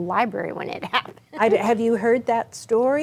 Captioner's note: chuckles